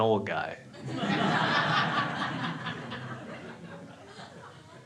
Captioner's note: crowd laughing